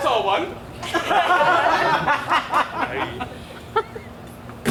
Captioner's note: audience laughs